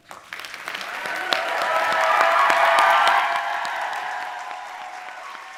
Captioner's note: audience applauding and cheering